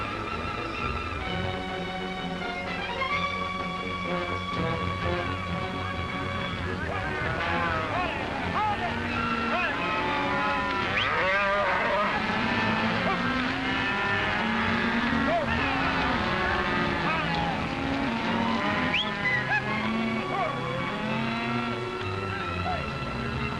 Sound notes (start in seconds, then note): 0.0 cattle mooing; 0.0 dramatic music; 5.2 men yelling; 10.2 cattle mooing; 10.2 dramatic music